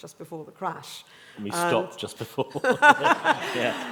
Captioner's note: laughter